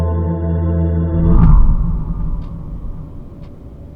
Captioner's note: screen whooshes; clock ticking